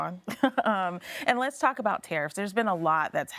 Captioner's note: chuckles